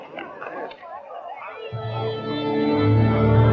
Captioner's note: chattering